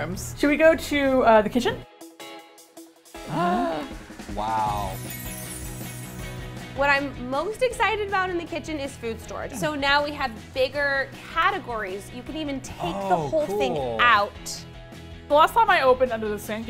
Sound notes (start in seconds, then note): 3.2 gasp